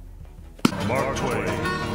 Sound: book clapping

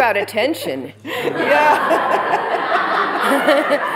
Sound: laughter

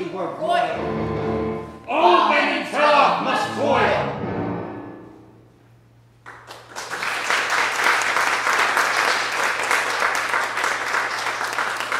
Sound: applause

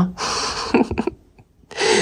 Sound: laughs

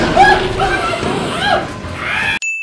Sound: screaming

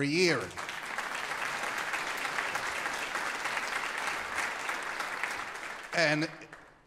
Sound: applause

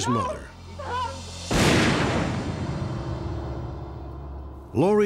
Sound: gunshot

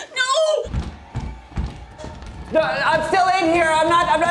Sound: door knob jiggling

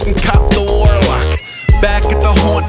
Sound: kirby meows

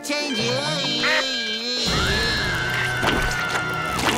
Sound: groaning; screaming

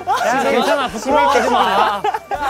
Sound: he cries

